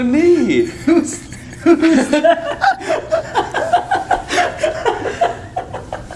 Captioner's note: all giggling